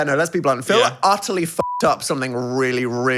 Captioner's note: beep